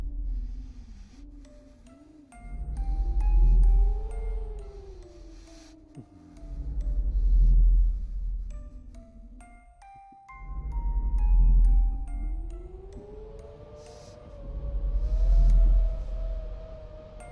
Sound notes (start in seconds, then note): 1.1 music box playing; 1.1 wind blowing